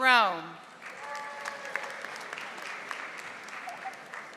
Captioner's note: audience applauding